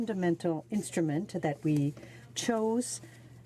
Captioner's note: speaking French